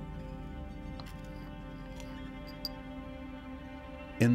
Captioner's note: crack and clink